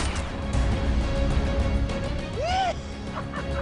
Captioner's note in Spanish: Detonación de disparo; Carcajadas